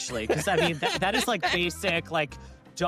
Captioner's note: laughs